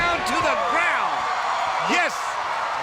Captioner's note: crowd cheering